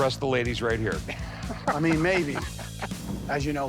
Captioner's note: laughing